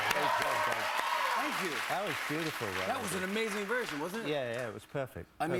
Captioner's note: cheers and applause